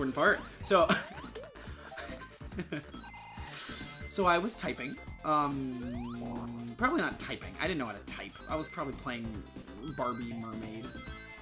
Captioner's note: laughing